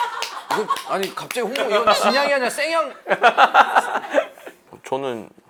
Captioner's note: hehe